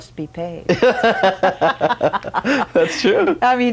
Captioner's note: laughs